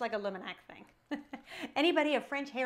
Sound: laughing

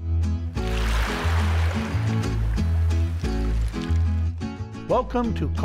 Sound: water splashes; playful music

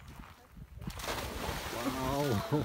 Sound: splash

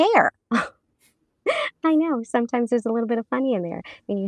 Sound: chuckles

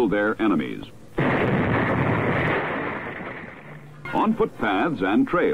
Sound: explosion booming

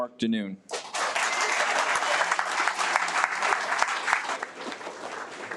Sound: audience applauds

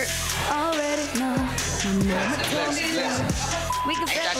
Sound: singing; crowd chattering

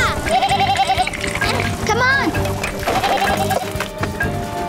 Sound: bleating

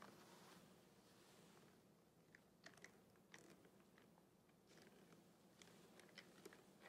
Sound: hands caressing plastic test tubes

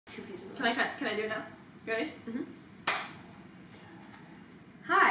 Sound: claps hands

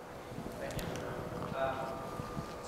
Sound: voiceover

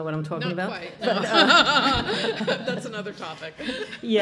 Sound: laughing

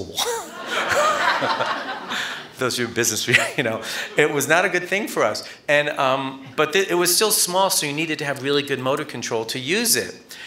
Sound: laughter

